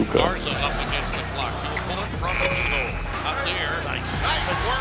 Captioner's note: buzzer sounds